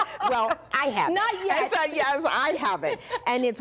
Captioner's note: laughter